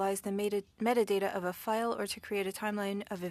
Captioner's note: speaking French